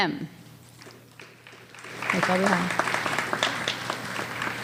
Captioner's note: applause